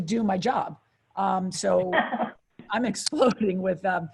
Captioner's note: light chuckling